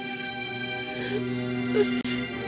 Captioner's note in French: pleurs